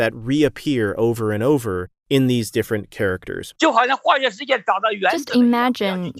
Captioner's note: speaking Mandarin